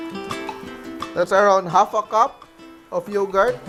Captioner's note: sizzle